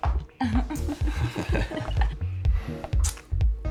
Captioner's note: both laughing